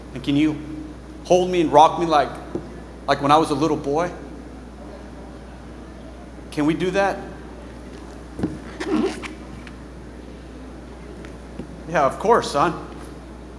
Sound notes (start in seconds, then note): 7.7 boots squeaking